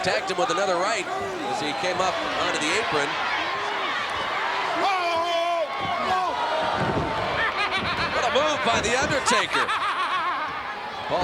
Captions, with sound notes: Tagged him with another right as he came on to the apron. (crowd yelling) (Hacksaw yelling) What a move by The Undertaker. (Paul Bearer laughing)